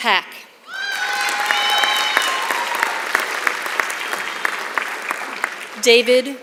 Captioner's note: applause